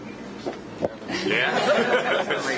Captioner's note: laughter